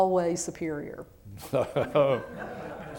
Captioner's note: laughter